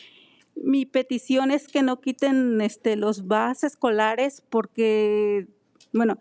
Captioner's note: speaking in foreign language